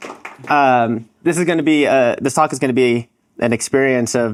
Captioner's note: applause